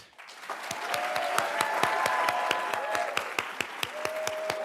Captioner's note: everybody applauds